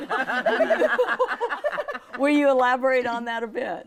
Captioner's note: laughing